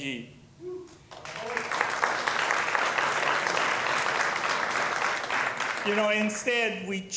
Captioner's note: applause